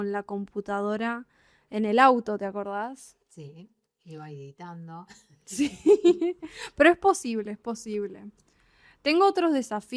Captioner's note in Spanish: risas